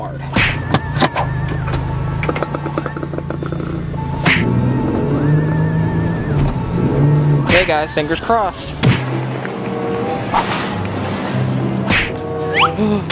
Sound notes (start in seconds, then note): 0.3 funny music; 4.8 car engine roaring; 10.5 funny music